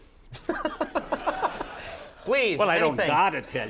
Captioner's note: Conan laughs